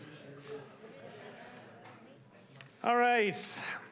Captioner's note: people chattering